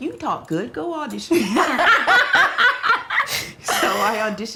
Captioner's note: both laugh